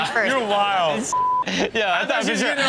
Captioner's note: beep